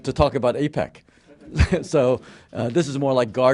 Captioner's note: laughter